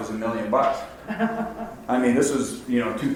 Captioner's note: woman laughs